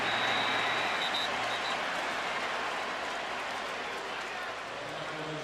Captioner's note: whistle